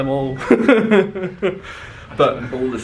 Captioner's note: chuckles